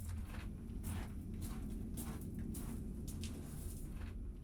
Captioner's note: walking footsteps